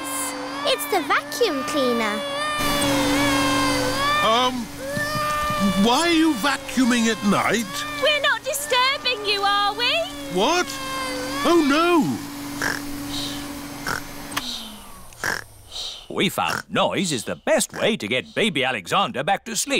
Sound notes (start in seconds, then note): 2.9 crying; 12.6 snores; 14.0 whirring stops